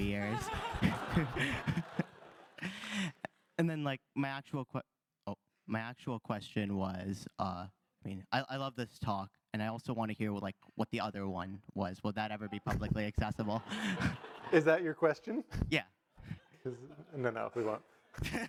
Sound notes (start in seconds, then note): 0.2 all laugh; 13.5 all laugh